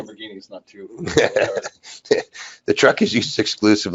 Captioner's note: laughs